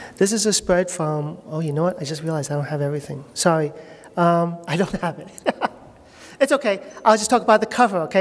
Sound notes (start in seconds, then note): 5.2 laughter